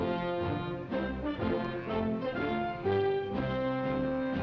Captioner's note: upbeat orchestral music; cows mooing